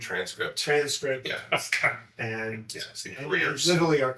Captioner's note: laughs